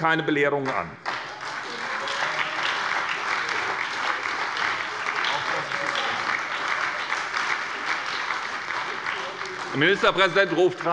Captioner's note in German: Beifall bei der SPD - Zurufe von der CDU